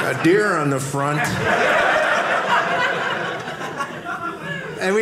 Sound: audience laughing

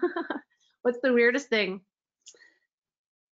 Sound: laughs

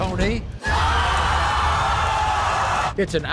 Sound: crowd jeers

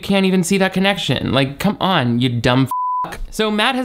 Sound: beep

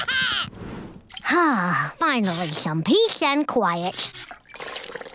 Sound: laughing; sighing

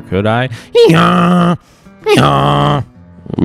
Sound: hee-haws

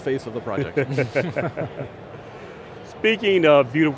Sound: all laughing

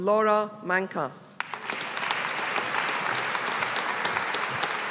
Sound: audience applauding

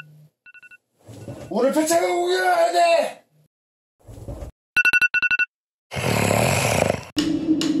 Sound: zzzzz

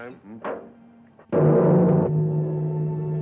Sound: loud gong

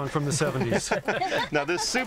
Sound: laughter

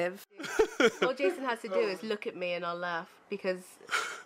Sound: laughing

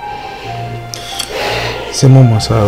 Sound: sigh

